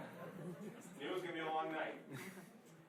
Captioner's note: laughing